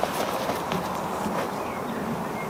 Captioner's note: birds chirping